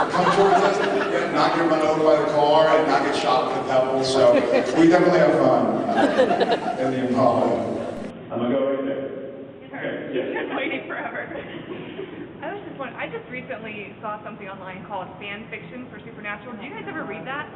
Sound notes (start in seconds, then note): 2.3 laughs; 4.3 laughs; 6.4 laughs